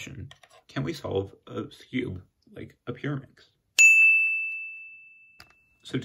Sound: affirmative ding

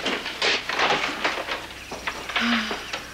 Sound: sighs; groans and mutters

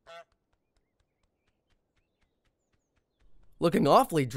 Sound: goose squawks

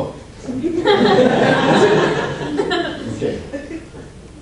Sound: audience laughs

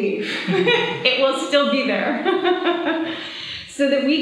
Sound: laughs; laughs

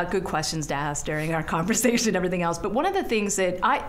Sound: chuckling

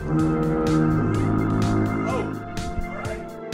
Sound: foghorn

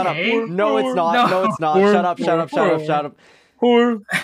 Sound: inhale

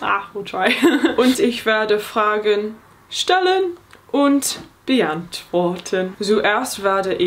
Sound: speaking in foreign language

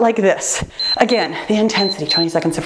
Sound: timer beeps

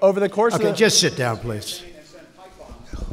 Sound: off-mic

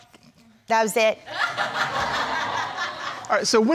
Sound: crowd laughing

